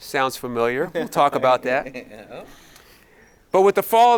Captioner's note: giggling